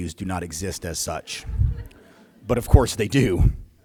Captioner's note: laughter